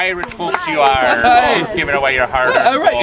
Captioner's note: happy pirate noises